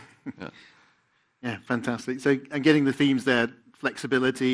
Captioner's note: laughs